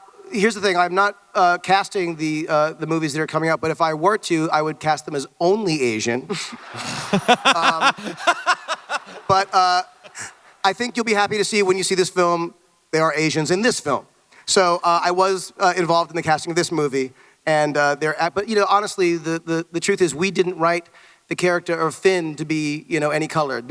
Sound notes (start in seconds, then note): 6.4 Hardwick belly-laughs; 6.7 someone snorts with laughter